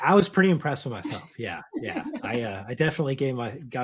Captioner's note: laughs